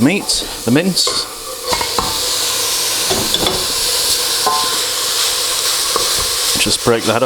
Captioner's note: sizzle